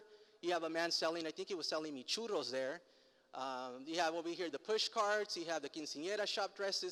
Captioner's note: foreign language